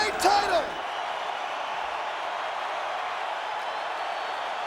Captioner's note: crowd cheering